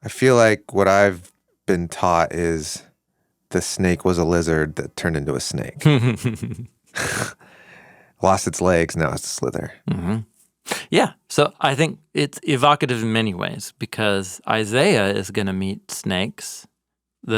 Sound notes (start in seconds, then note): 5.8 chuckles